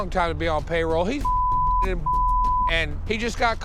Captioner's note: beep